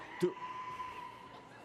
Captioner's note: loud shriek; cheering and applause